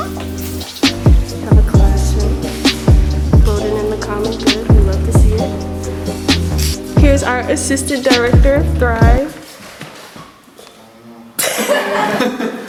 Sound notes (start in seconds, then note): 11.4 laughter